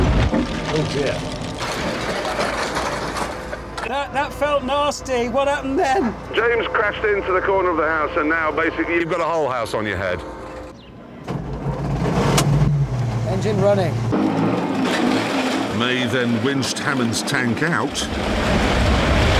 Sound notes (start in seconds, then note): 6.3 Jeremy on radio